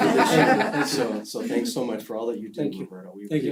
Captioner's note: laugh